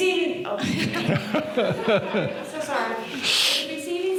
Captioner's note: laughing